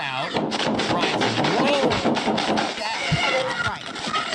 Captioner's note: gun firing